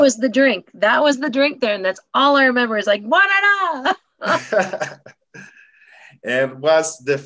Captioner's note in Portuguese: Riso